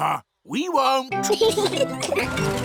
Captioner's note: both giggling